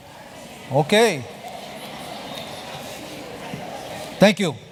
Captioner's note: chatter